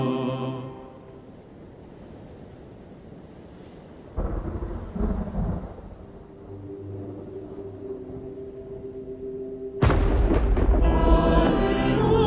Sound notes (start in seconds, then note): 0.1 ocean sounds; 4.1 thunder